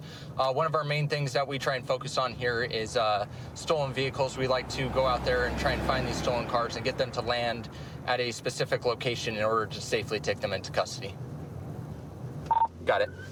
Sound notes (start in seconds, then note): 12.4 radio beeps